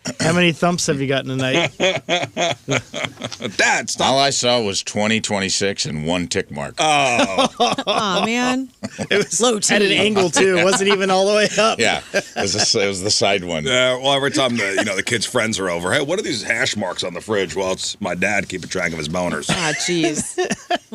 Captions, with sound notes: How many thumbs have you gotten tonight? (laughing) That's not-- All I saw was 20, 26 and one tick mark. Oh. (laughing) Aw, man. It was low-tended angle too. It wasn't even all the way up. Yeah, it was the side one. Well, every time the kid's friends are over, hey, what are these hash marks on the fridge? Well, it's my dad keeping track of his boners. Ah, geez.